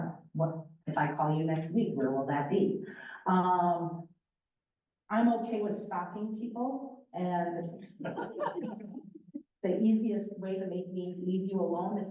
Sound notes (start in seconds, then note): 8.0 laughter